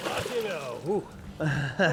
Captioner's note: splashing